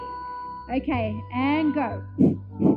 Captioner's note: pants